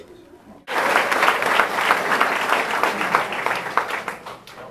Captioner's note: audience applauding